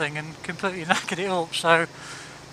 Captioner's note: laughs